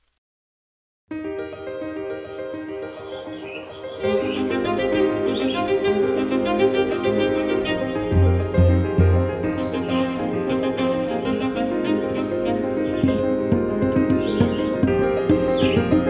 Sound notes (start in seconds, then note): 1.1 uplifting music; 3.0 chirping